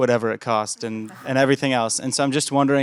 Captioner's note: laughter